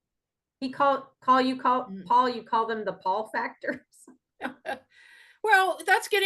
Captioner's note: laughs